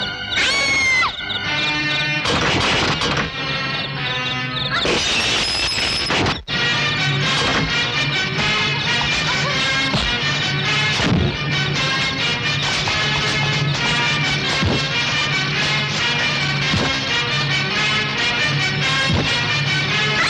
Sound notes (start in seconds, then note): 0.3 screaming; 4.9 glass Breakage